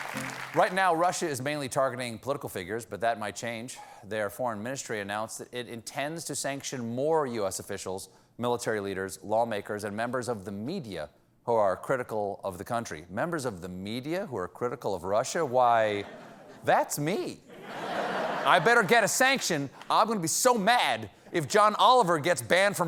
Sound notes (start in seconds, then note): 17.5 laughter